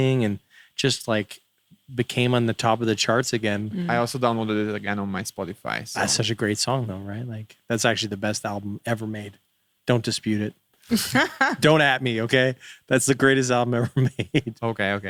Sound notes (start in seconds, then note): 10.9 laughing